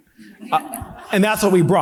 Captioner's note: audience laughing